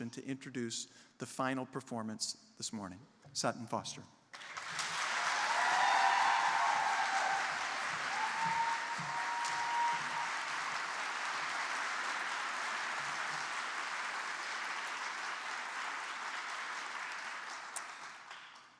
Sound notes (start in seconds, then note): 4.3 applause